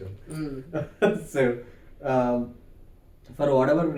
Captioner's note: laugh